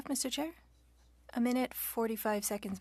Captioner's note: speaking French